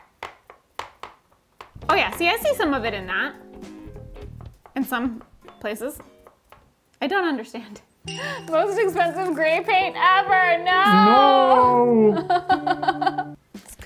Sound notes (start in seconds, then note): 0.1 upbeat music; 0.4 brush taps; 8.0 chime rings; 10.9 laughs